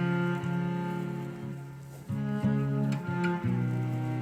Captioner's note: cows lowing